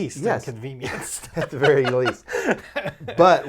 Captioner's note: laughing